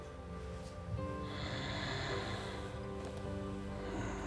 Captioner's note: snoring continues